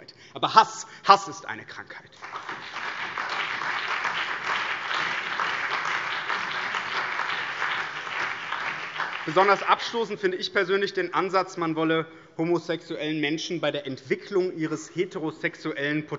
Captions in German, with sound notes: aber Hass ist eine Krankheit. [Beifall BÜNDNIS 90/DIE GRÜNEN, CDU, vereinzelt SPD und DIE LINKE] Besonders abstoßend finde ich persönlich den Ansatz, man wolle homosexuelle Menschen bei der Entwicklung ihres heterosexuellen